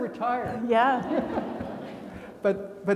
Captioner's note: attendees laughing